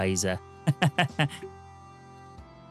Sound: laughter

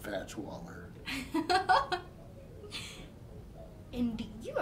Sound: laughing

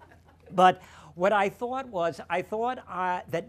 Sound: laughter

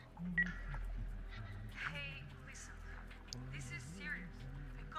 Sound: on phone

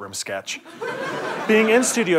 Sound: audience laughter

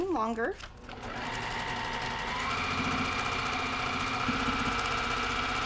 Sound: sewing machine grinding

